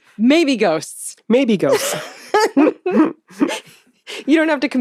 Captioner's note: laughs